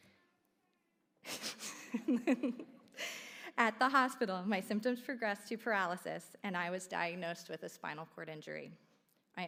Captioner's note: laugh